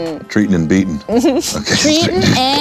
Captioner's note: laughs